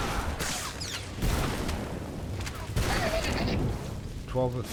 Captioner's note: giggles